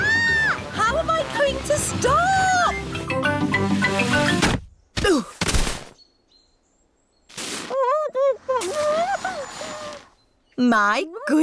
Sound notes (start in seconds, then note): 0.0 shrieks; 5.4 groans; 8.1 muffled groans